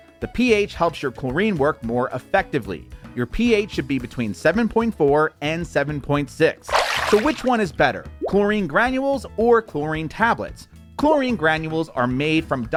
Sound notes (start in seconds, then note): 6.6 splashing tone